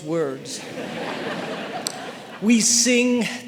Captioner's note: audience laughing